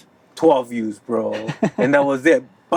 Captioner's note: laughs